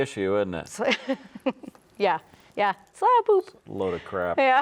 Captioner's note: chuckles